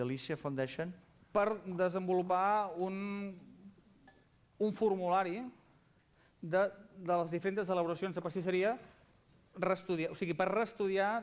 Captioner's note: non-english speech